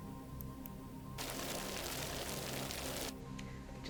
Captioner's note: sped up gravel sounds